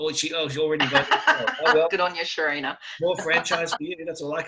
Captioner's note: laughs